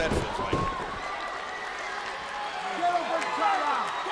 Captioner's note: body thudding